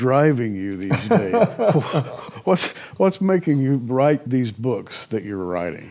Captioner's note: laughs